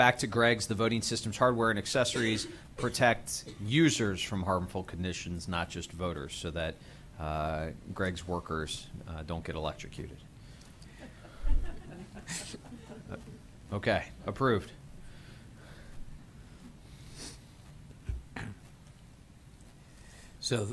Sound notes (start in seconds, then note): 13.4 laughter